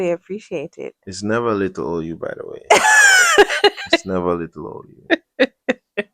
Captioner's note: laughter